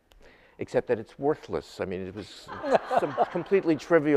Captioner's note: audience laughing